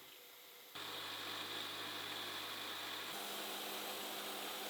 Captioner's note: machine whirring